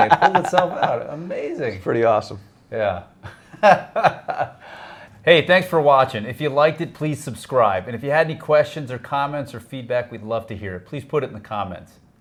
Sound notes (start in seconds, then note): 3.2 laughs